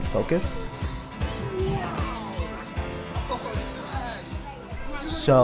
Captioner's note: child yelling and laughing